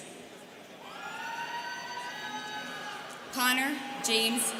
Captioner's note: students cheering